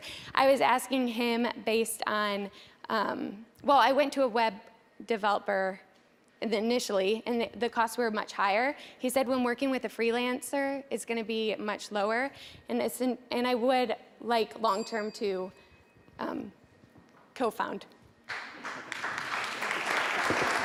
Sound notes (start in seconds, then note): 14.6 bell dings; 18.2 applause